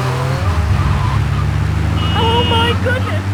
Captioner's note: tires screeching